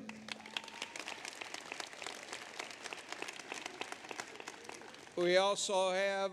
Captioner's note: applause